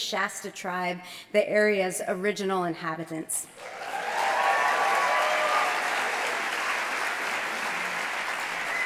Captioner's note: applause